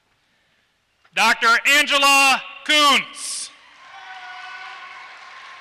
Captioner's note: applause